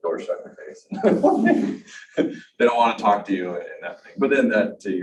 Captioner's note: panelist laughs